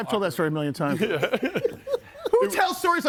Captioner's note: group laughs